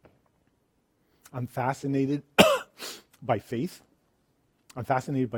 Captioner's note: coughs